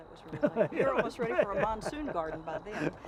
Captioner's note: laughing